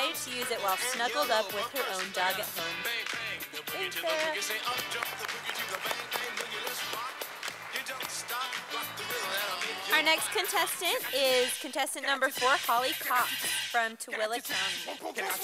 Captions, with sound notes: while snuggled up with her own dog at home. Thanks Sarah. [Sound of applause from audience] Our next contestant, is contestant number four, Holly Cocks, from Tooele County.